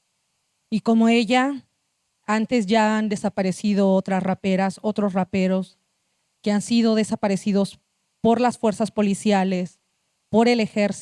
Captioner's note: speaking Zapotec language